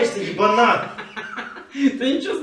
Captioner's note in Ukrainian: сміється